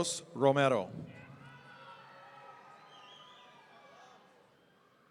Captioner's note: audience cheering